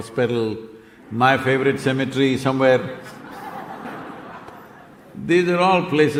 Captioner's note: laughter